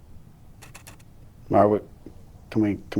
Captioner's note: somehow more aperture clicking